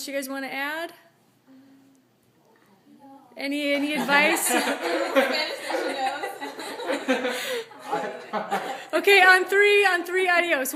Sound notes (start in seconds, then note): 3.8 laughing - adios